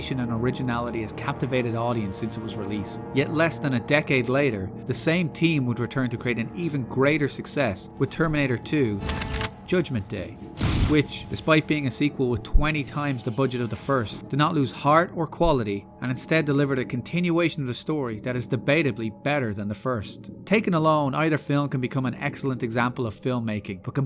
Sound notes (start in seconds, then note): 9.0 shotgun cocking; 10.6 boom